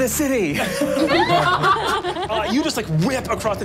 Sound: laughing

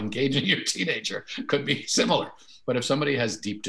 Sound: chuckles

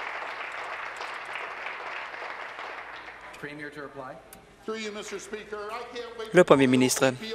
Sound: applause

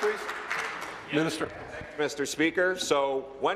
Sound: applause

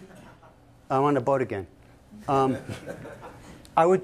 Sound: laughter

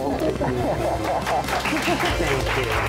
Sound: audience clapping

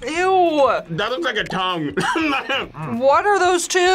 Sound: laughs

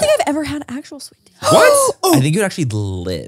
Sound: Laura gasps

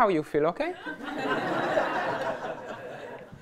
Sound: laughter

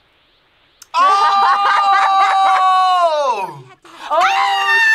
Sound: laughs

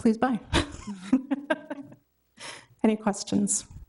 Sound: chuckles

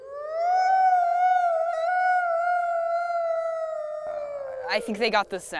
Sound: wolf Howl

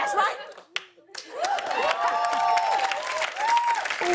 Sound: cheers and applause

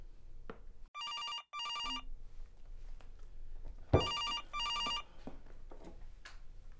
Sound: telephone rings

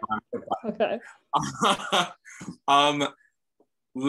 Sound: laughing

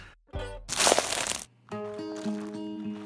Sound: dirt crunches; soft acoustic guitar music

